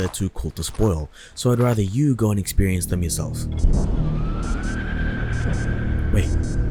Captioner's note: night alarm